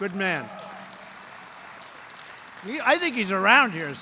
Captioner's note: applause